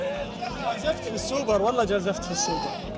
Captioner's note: in Arabic